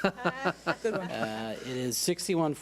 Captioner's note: laughing